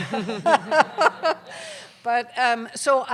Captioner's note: laughter